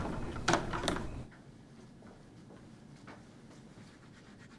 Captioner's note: door clicking